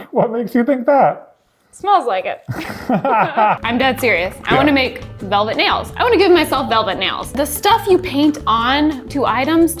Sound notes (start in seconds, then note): 2.5 both laughing